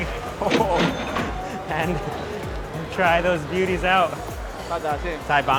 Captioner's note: register chiming